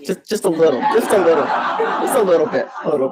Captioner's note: audience laughs